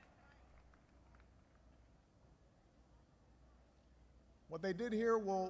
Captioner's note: applause